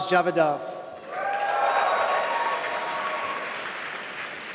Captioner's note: applause